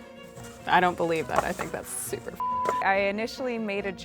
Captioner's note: beep